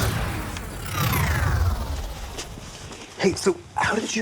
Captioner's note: warp noise